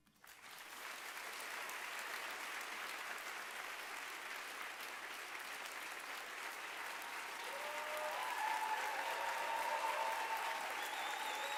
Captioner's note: applause